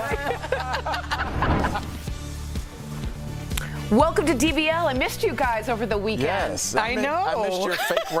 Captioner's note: laughter